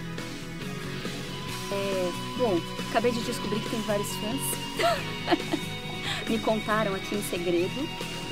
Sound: laugh

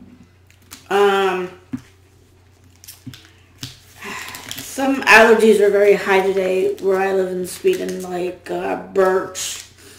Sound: sigh

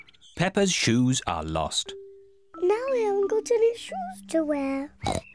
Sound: oinks

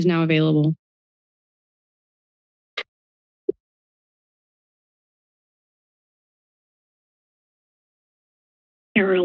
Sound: silence

